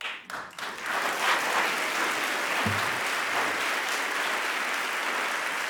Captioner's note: audience applauding